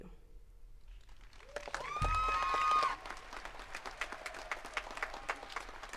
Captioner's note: attendees cheering and clapping